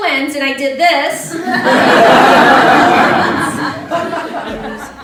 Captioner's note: laughter